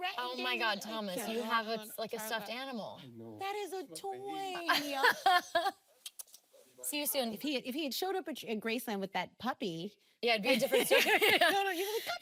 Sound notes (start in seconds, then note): 4.6 Shailene laughing; 6.0 kisses smacking